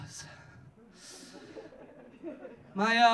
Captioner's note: audience laughing